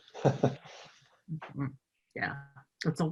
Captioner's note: laughing